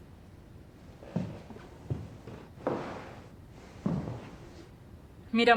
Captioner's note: footsteps